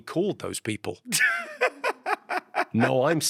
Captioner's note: Ahir laughs